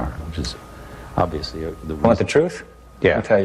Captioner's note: mumbles